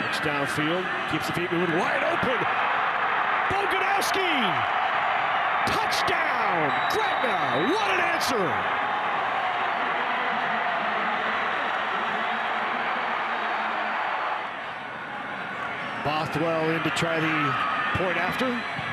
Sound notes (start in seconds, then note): 2.7 fans cheer; 6.3 referee blows whistle; 8.7 fans cheer